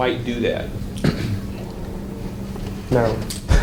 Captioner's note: clears throat; chuckles